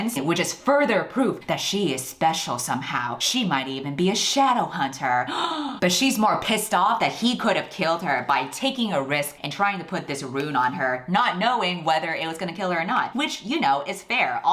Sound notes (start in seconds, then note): 5.2 gasps